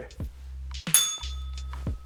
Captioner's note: bell rings